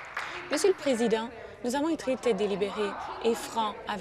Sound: applause

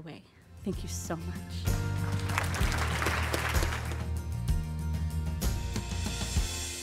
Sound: applause and music

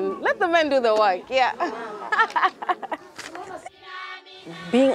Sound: laughs

